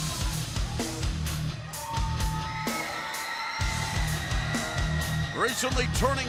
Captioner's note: crowd cheering